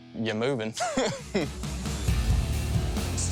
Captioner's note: laughs